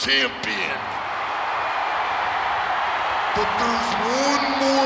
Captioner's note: audience cheering